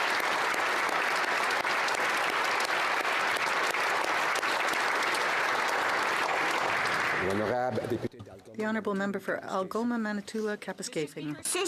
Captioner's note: applause